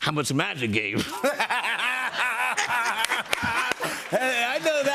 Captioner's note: laughter